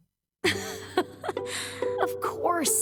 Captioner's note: laughing